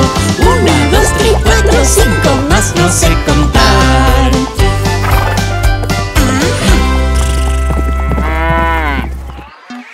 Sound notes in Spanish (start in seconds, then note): 4.5 Mugido de vaca; 4.5 Música alegre; 4.5 Sonido de relincho; 9.3 Música alegre; 9.3 Sonido de loro